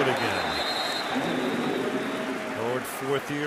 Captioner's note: whistle